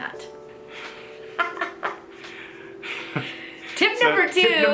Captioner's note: both laughing